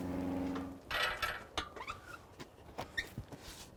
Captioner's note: wood clunking